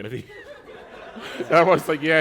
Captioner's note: laughter